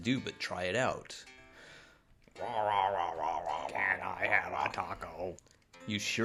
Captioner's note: dinosaur growling while translator translates to English